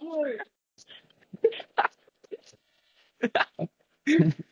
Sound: laughter

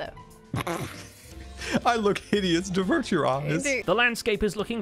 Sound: snort-laughs

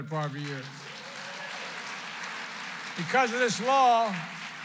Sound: applause

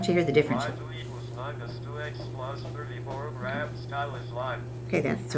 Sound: calculator Sounds

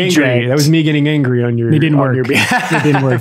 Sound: laughs

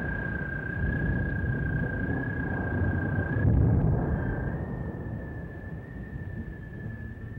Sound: thunder

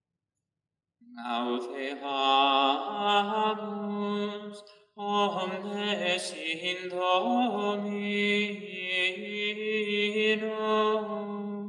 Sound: chant

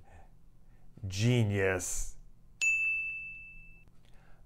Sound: chime

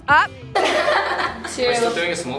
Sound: laughs

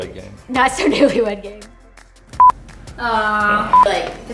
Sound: laughing; beeping

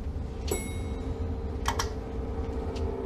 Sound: elevator dings

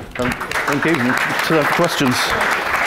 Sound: audience claps

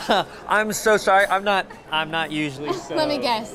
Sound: laughs

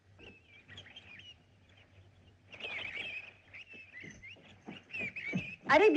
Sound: birds Chirping

